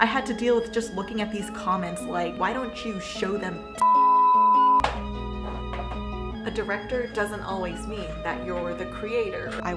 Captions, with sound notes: - I had to deal with just looking at these comments, like, why don't you show them (beep) A director doesn't always mean that you're the creator.